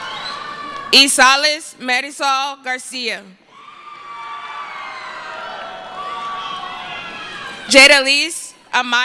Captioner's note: cheering